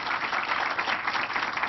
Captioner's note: applause